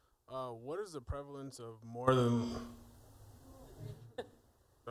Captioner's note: mic feedback